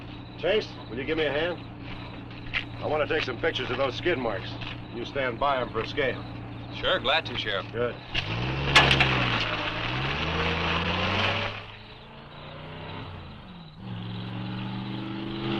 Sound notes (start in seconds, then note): 8.4 truck engine rumbling; 12.5 engine revving